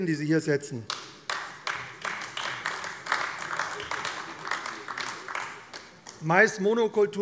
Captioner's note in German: Beifall AfD